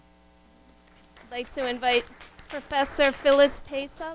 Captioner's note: audience applauds